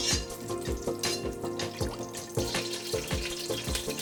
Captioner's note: sizzling